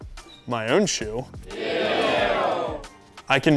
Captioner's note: crowd booing